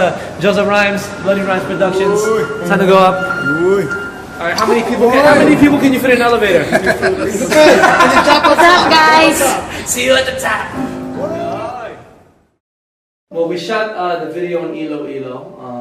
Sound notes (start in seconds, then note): 6.6 laughter